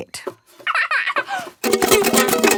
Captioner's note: giggles; vigorous, unpleasant strumming